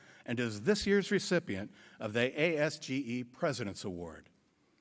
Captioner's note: none